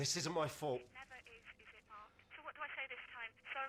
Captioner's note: phone rings